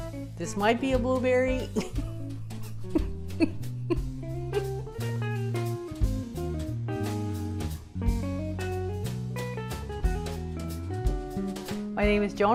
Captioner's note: laughing